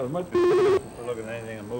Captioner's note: buzzing/beeping